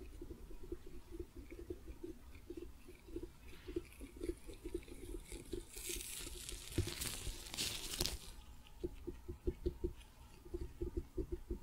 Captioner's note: tapping, sticky sounds